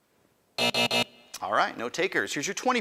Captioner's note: end time buzzer rings